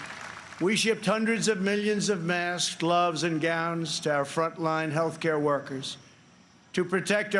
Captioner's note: applause